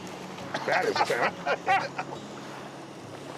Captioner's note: laughter